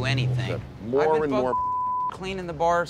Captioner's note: beep